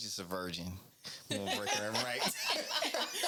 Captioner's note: laughing